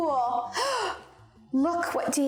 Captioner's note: gasps